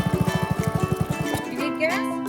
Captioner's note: engine roaring; engine stops